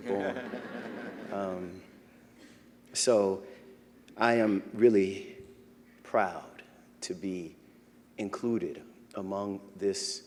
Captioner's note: laughter